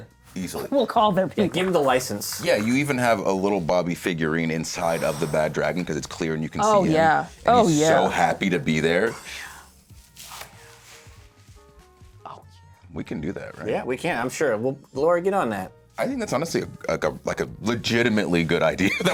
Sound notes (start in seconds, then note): 11.8 whispering